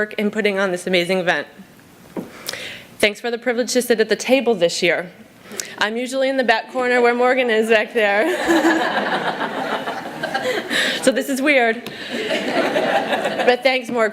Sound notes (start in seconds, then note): 12.0 laughter